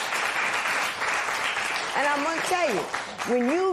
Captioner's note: applause